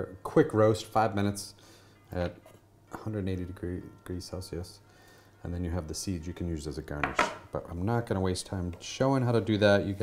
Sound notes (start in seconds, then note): none